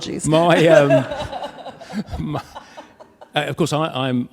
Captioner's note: laughs